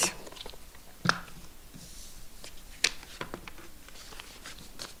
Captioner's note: paper rustling